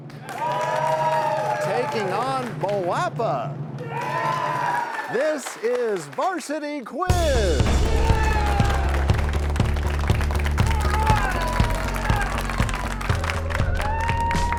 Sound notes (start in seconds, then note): 0.0 cheers and applause; 7.2 crashing sound